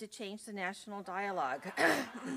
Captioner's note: laughter